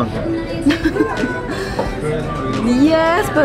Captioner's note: laughs